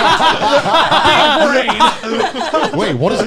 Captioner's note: laughing